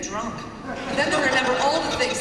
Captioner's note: laughter